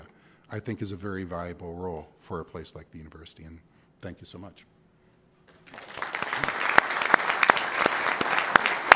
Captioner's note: applause